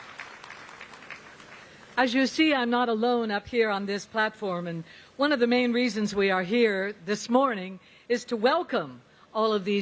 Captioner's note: applause